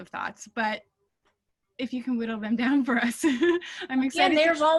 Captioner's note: laughing